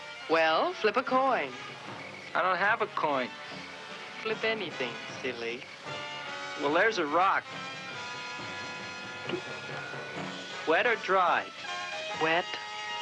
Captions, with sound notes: - Well, flip a coin. - I don't have a coin. - Flip anything, silly. - Well there's a rock. (spitting) Wet or dry? - Wet.